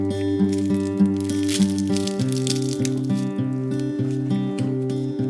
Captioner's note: crackilacking